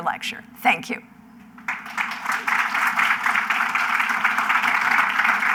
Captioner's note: applause